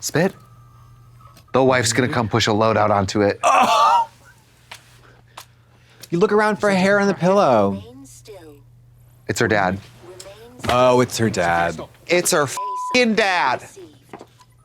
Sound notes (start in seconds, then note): 12.6 beep